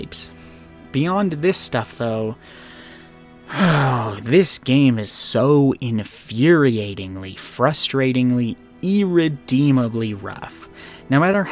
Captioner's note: sigh